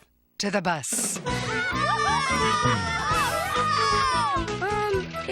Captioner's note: kids cheering